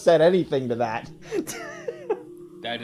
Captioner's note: laughing